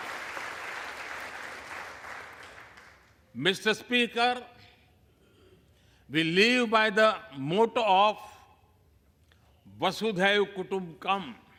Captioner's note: applause